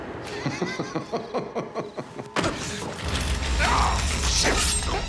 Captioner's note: man laughing